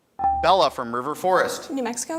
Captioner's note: buzzer dings